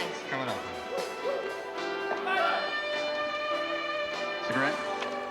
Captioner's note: shouting